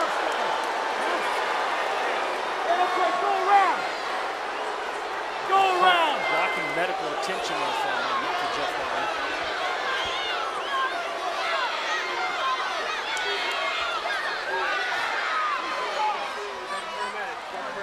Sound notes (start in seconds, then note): 0.2 crowd boos; 9.7 crowd shouts and boos